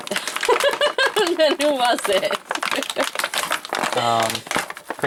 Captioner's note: laughs